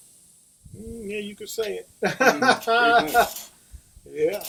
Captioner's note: laughter